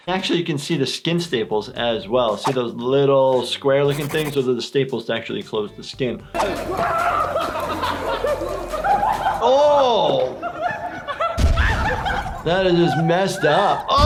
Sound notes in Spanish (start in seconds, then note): 6.7 riendo y exclamando; 10.5 reír